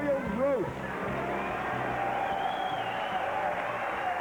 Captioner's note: cheers and applause